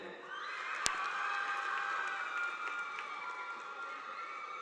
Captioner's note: audience applauding